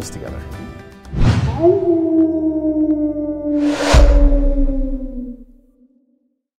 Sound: howling sound

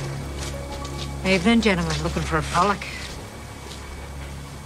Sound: broad accent

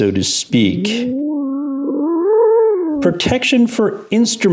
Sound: cat growling

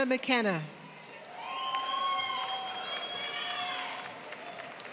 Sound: applause

